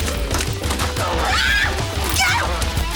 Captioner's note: energetic rock music; Jodie screaming